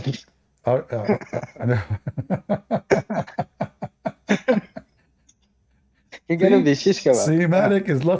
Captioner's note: Ketawa